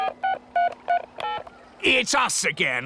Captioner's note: dialing